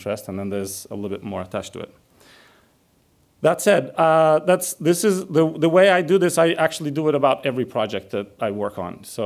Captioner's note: none